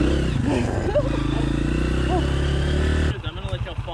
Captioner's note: laughing